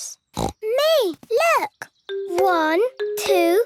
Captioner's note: snorting